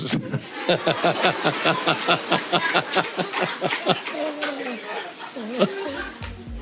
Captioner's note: laughter